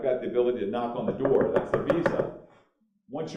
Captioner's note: knocking